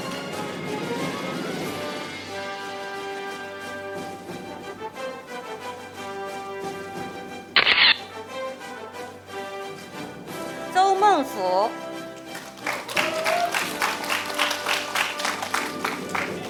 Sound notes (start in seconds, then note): 0.2 orchestral music; 7.6 camera shatters; 12.0 audience applauding